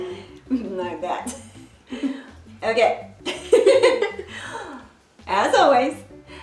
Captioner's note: laughs